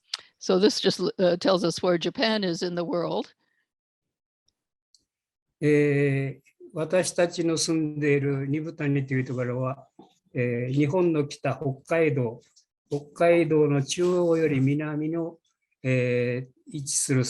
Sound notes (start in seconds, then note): 6.8 speaking japanese